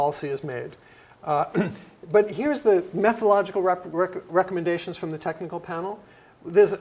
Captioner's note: cough